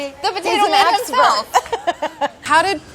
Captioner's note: laughter